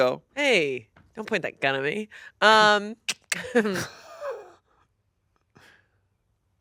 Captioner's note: laughs